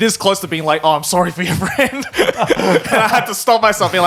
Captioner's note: laughs